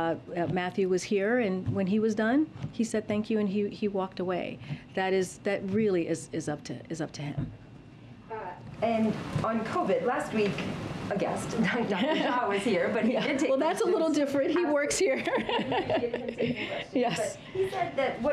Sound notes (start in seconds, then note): 11.6 laughs